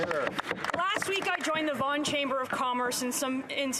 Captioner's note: applause